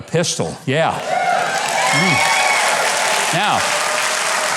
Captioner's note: audience claps and cheers